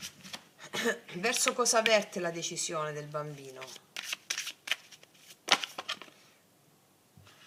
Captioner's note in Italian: schiarire la voce